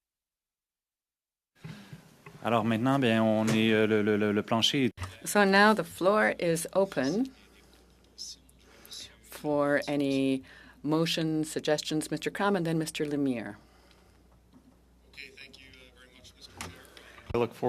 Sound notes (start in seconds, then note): 10.3 speaking French